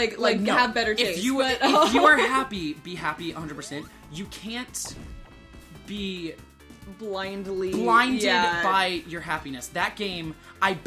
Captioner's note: both laughing